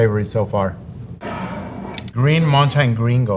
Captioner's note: jar sliding